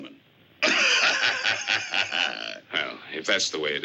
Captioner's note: laughs